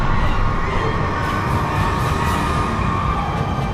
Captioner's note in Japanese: 叫び声